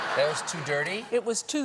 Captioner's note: laughter